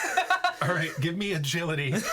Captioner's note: laughing